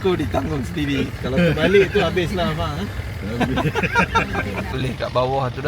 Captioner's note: laugh